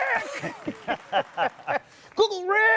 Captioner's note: laughter